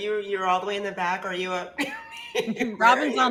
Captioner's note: chuckles